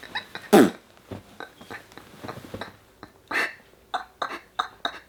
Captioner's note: blowing raspberry